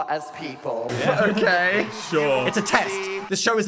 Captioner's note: laughs